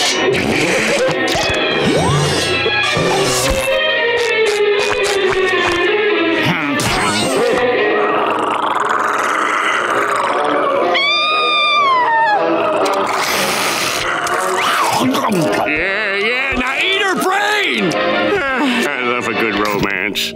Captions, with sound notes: [growling] [screaming] Yeah yeah, now eat her brain! Oh, I love a good romance.